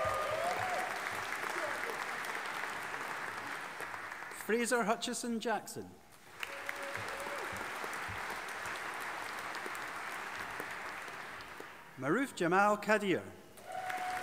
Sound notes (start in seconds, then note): 0.0 audience applauding and cheering; 6.2 audience applauding